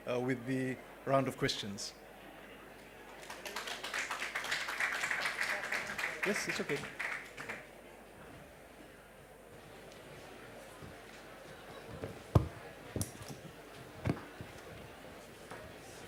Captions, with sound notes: with the round of questions. (APPLAUSE) (BACKGROUND CHATTER)